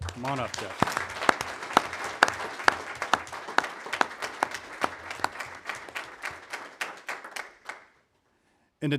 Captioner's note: applause